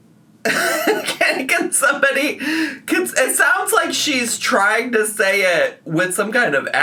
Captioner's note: laughs